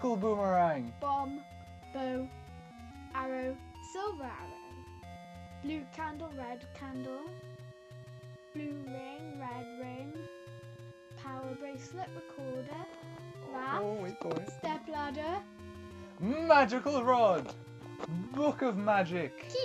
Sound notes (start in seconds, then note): none